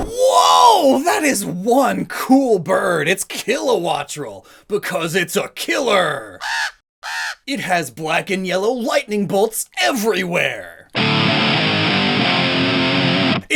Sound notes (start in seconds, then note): 7.0 squawk